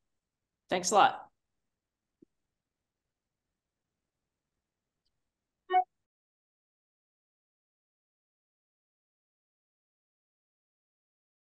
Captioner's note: silence